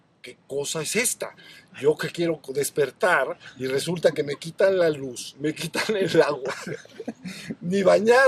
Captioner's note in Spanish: risas